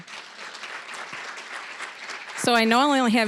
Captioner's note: applause